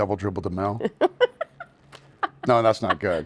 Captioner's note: laughing